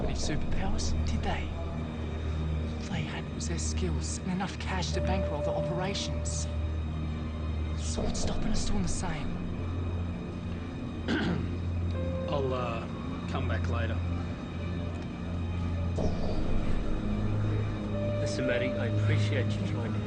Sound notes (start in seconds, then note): 11.0 clears throat; 14.7 dramatic music